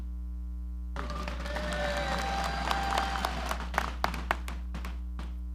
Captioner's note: audience applauding